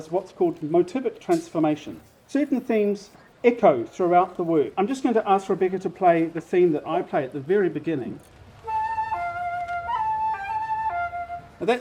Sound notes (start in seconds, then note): none